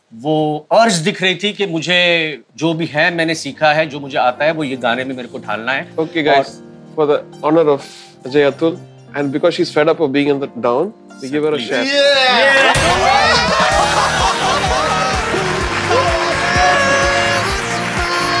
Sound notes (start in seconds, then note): 12.2 all cheering and laughing; 14.5 theme music playing